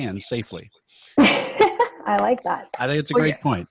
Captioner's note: laughing